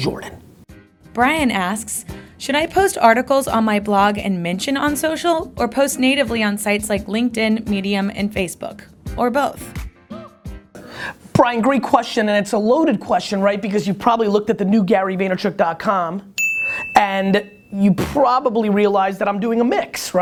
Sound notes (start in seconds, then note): 0.4 voiceover; 16.3 ding